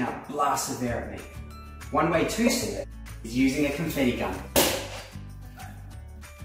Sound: bang

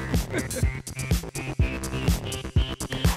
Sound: chuckling

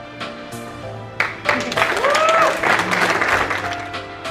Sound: applauding

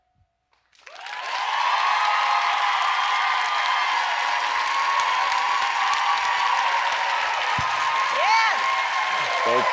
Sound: applause

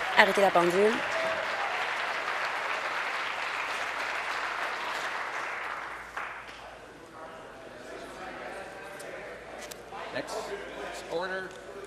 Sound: applause

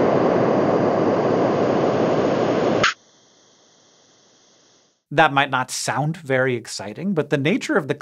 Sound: audio of huygens landing

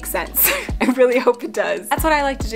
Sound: laughing

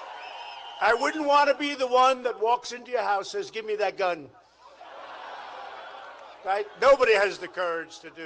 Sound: applause

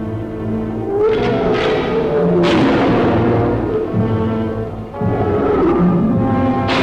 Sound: creature roaring; gun firing

